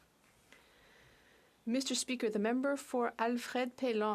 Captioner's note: speaking French